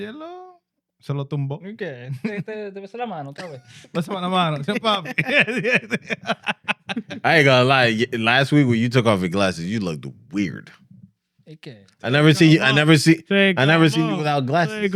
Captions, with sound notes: (Speaking In Foreign Language) I ain't gonna lie, last week when you took off the glasses you looked weird. I never seen you without glasses.